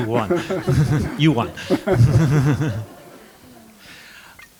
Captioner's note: chuckles